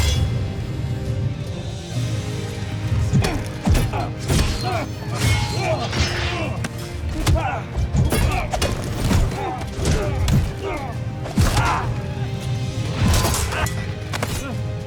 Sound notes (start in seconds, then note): 1.9 grunting, growling, groaning; 1.9 thudding, clanging, thumping